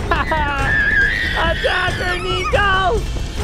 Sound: screams

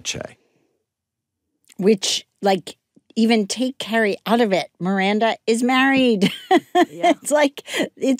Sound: laughs

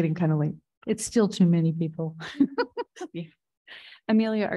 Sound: laughs

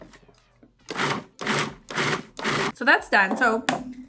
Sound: repeated grinding

